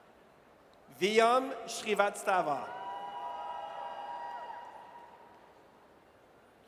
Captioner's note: audience cheers